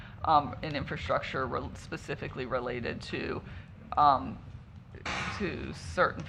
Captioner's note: audio blip